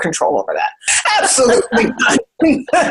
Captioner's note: they all laugh